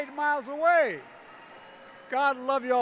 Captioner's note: applause